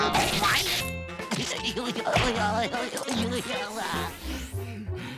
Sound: laughing

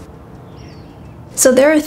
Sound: birds twittering

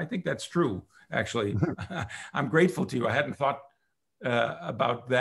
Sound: chuckles

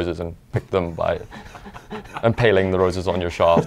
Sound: laughing

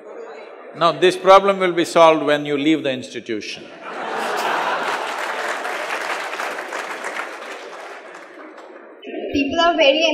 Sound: laughter/Applause

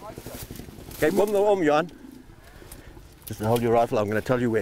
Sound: speaking foreign language

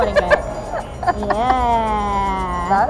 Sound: laughs

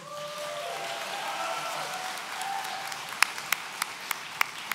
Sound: audience cheering

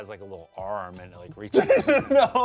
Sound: laughs

